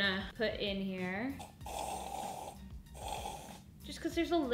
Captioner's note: whooshing